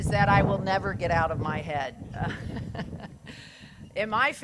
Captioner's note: laughs